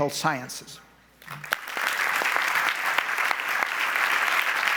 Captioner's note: audience applauds